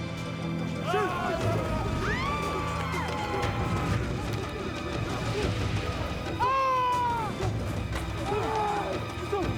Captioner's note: screaming and confusion